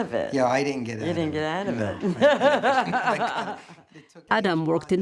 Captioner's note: laughs